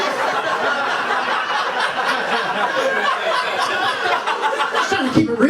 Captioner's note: laughter